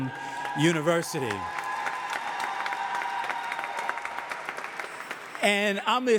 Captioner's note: audience cheering and applauding